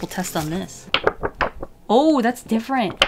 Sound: tik-flip-flop-tik-flop

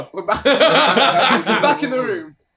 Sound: all laughing

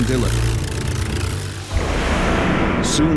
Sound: engine roars

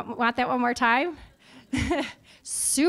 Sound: audience laughing

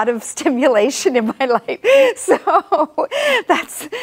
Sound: laughs

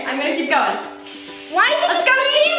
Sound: can spraying

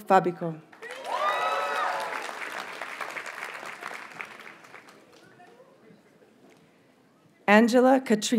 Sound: audience cheers and applauds

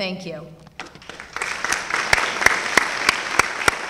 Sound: applause

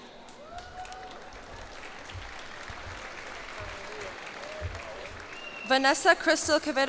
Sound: cheers and applause

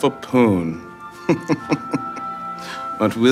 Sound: Jordan chuckling

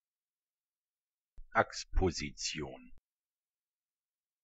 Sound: fast Pronunciation

